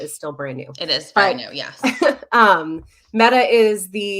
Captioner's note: chuckles